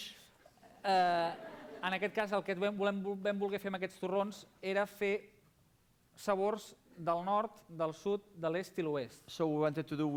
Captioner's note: non-english speech